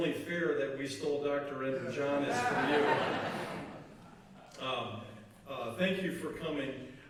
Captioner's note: laughter